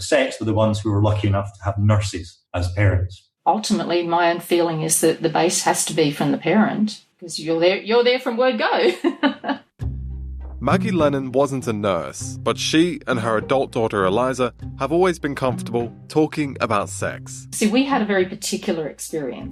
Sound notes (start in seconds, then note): 8.8 laughts; 9.8 strings